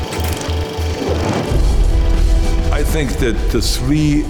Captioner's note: film rattling